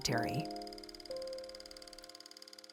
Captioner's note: film reel clacking